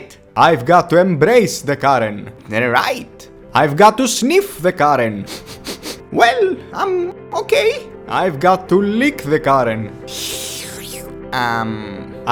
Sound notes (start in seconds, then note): 5.2 furious sniffing sounds; 10.1 slurping sounds